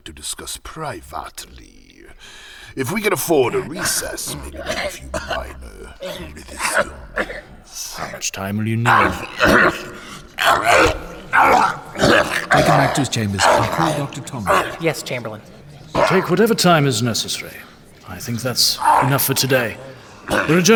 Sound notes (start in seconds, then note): 4.6 More pages turning. Cydar continues coughing; 12.5 Cydar coughing more violently